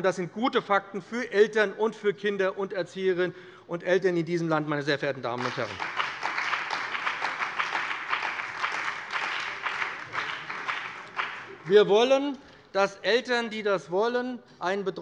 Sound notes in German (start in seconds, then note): 5.3 Beifall bei dem BÜNDNIS 90/DIE GRÜNEN und der CDU